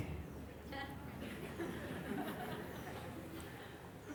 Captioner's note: laughter